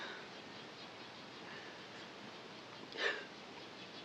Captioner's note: softly crying